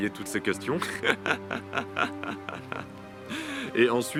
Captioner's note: laughs